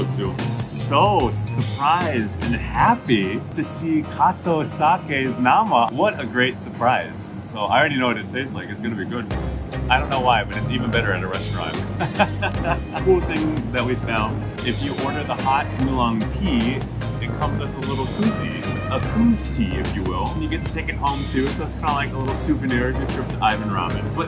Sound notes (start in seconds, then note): 11.7 hahaha